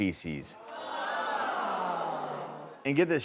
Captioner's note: audience groaning